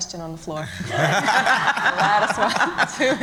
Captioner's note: laughter